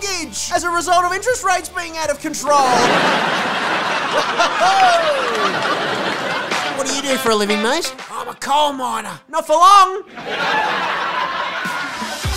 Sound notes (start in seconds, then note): 2.6 crowd Laughter; 10.0 crowd Laughter